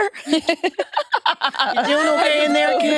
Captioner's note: participants laughing